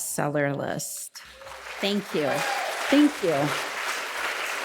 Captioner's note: audience applauding